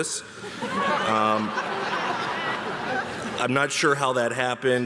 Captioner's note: audience laughing